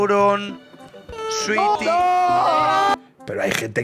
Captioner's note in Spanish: gritan todos